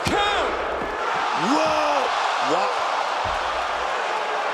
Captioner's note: audience cheering